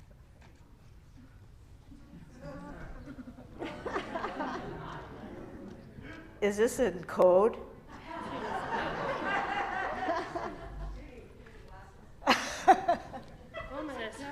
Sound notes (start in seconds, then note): 2.3 laughter from congregation; 8.0 loud laughter; 12.2 laughter